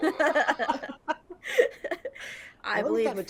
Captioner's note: people laughing